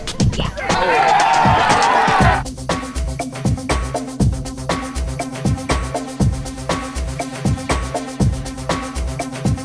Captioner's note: cheers and music